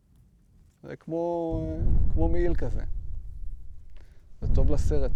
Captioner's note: sound of explosion in syria behind